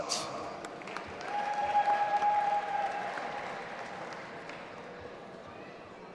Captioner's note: audience applauding and cheering